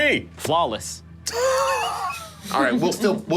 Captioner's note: laughing